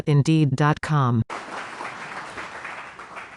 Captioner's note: applause